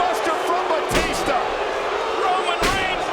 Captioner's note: audience jeers